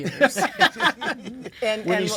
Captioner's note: all laughing